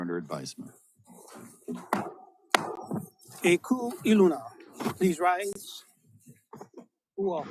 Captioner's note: gavel bangs twice